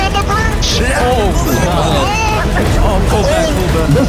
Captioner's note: frightened shouting